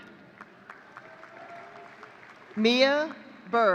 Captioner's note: audience cheering